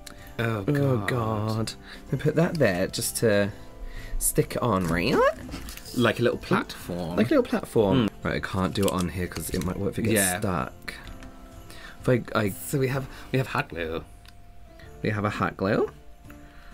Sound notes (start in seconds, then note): none